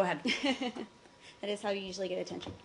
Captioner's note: laughter